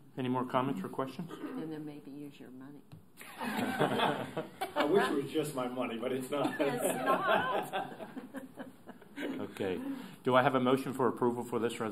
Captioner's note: laughter